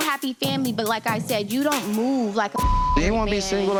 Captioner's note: beep